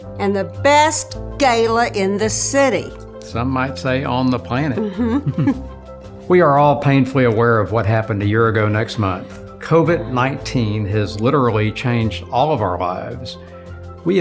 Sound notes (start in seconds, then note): 4.8 both chuckle